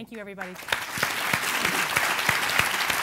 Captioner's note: applause